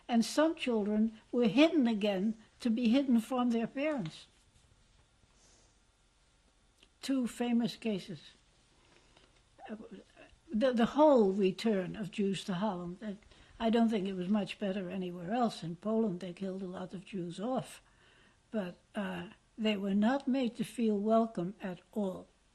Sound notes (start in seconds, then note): 4.0 pauses for 3 seconds